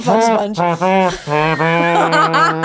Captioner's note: laughing; imitates trumpet blare